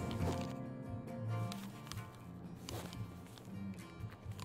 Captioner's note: music fades, headphones click; music fades, headphones shuffle, leather rubs; headphones creak